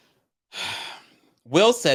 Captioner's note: sighs